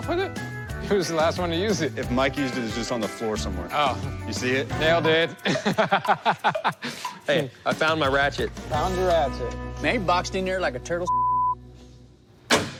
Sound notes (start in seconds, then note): 5.3 laughter